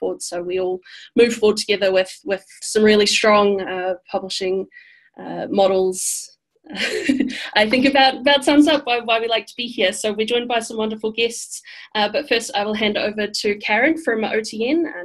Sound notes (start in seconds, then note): 6.8 laughs